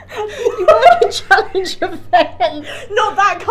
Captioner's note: laughing